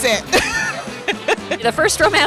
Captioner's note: laughing